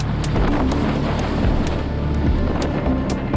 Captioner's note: windy